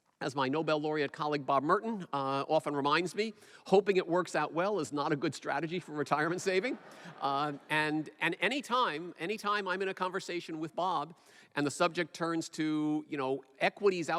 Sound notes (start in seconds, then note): 6.1 laughter